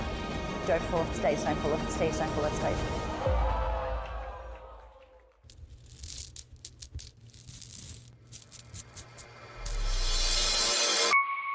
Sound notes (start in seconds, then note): 5.4 diamonds rattling; 8.8 light music